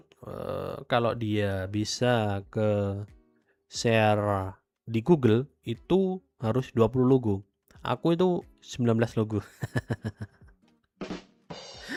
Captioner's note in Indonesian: tertawa